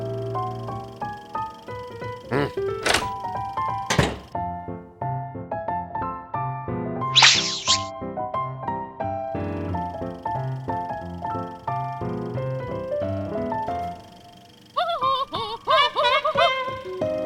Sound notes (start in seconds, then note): 14.7 laughing; 14.8 trumpeting laugh